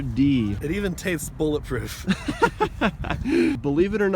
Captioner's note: laughing